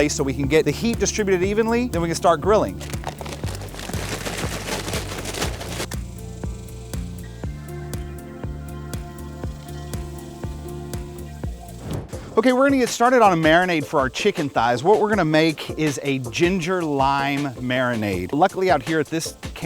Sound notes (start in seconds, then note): 2.0 pouring charcoal; 5.9 calm country music